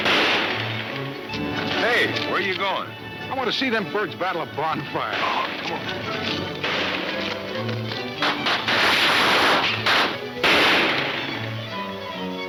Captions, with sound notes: - Hey, where you going? - I want to see them birds battle a bonfire. - Ah, come on. (gunshots banging)